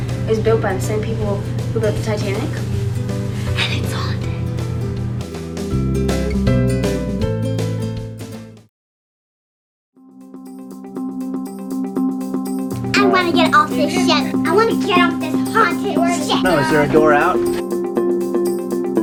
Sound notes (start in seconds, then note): 3.0 whispering